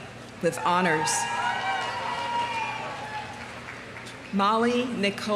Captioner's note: audience cheering; audience applauding